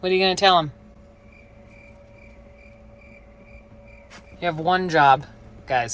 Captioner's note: crickets chirping